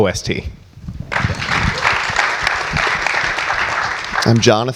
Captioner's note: audience applauds